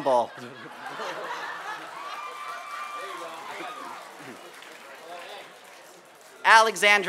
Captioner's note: laughter and applause